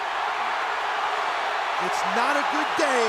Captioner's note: crowd cheering